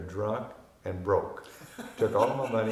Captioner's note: laughing